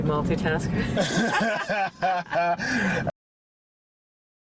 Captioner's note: both laughing